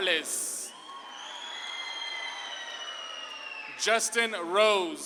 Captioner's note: audience claps and cheers